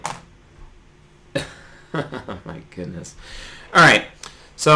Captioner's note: laughs